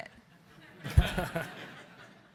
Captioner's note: audience laughing